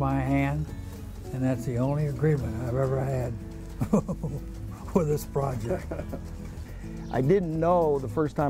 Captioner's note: laughing